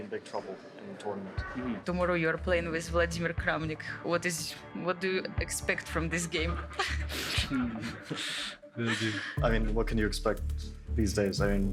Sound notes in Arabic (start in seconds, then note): 7.5 يضحك المراسلون